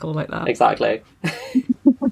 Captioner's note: laughs